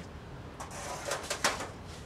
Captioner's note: light clattering